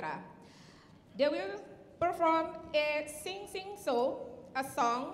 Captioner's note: speaking in Indonesian